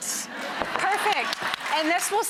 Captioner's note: audience laughs